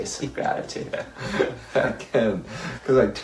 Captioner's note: laughs